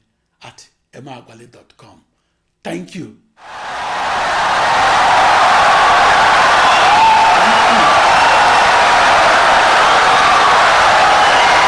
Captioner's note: wild applause and cheering for 17 seconds